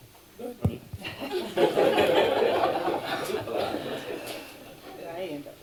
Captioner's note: laughter